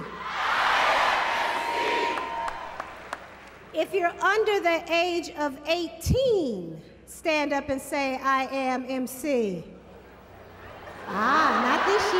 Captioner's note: laughter